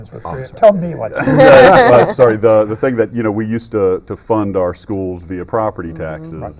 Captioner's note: laughter